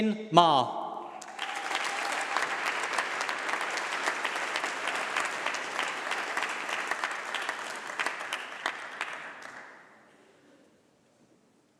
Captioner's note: applause